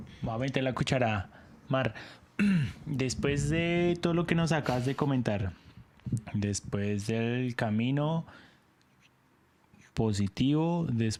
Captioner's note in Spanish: carraspeo